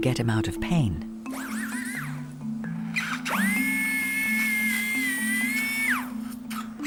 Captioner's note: gentle pensive music; drill whirring